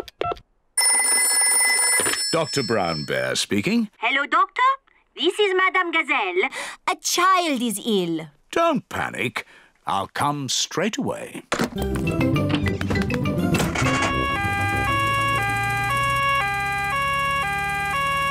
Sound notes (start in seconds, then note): 0.8 phone rings; 13.7 siren wails